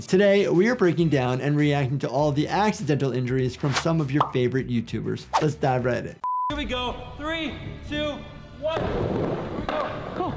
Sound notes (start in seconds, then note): 6.2 signal beeps